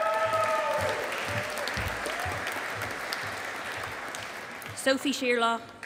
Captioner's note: audience applauding